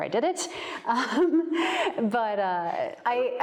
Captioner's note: chuckles